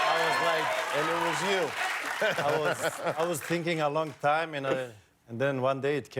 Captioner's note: cheers and applause